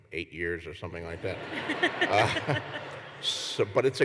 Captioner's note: laughter